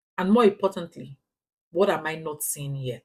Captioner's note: paause